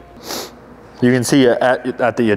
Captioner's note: sniffles